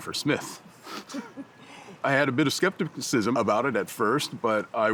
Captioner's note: scoffs